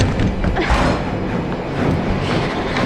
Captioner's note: scared breathing